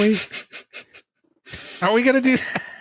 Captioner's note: giggles